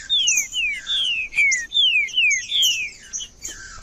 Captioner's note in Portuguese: trinca ferro cantando